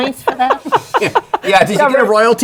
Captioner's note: laughter